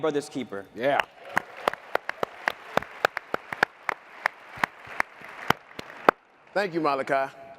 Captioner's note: applause